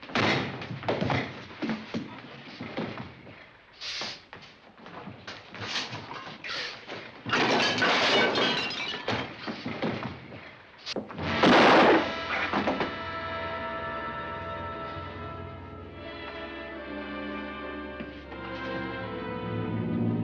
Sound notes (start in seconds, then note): 0.1 thudding; 7.2 crashing; 11.0 banging; 11.2 dramatic music